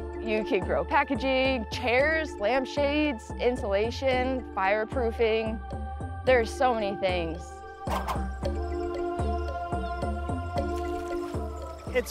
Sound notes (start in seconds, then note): 7.3 gently intense electronic music; 7.8 air whooshes